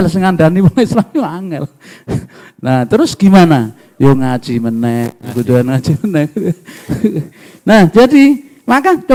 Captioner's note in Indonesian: tertawa